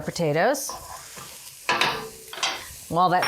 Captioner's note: pan sizzling